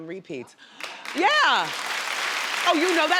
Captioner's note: crowd claps